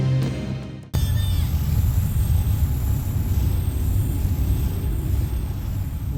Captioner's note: energy whoosh-crackle